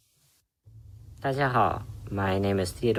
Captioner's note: speaks Chinese